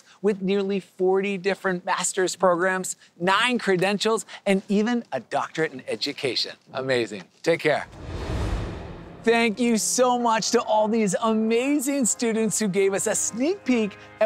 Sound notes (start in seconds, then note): 7.8 air whooshing